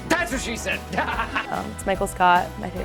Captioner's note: laughs